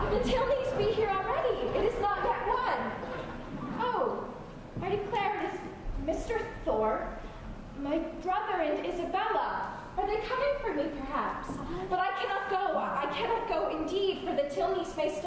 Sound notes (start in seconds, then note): none